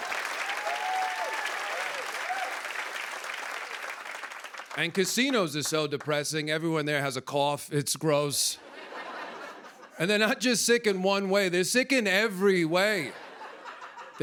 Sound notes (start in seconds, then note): 0.0 cheers and applause; 8.6 laughter